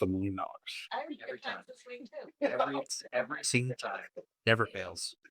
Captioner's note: laughs